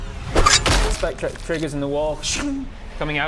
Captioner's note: sching